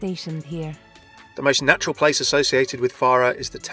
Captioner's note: voiceover